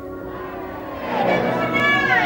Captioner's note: crowd cheering